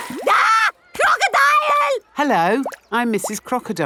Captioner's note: screams